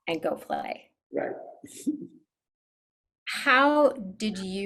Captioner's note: chuckles